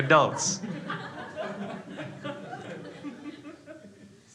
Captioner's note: crowd laughs